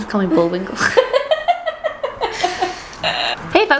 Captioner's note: laughter